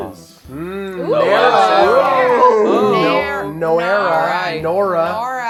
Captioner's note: overlapping chatter